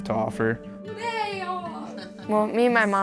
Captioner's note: laughing